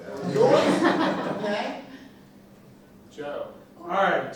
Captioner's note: laughter